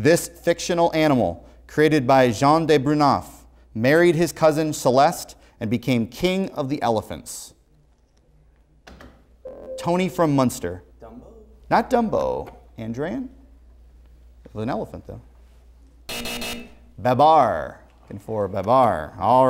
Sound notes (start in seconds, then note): 16.1 buzzer sounds